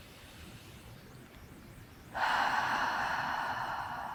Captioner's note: breathing deeply